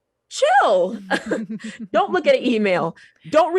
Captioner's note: laughs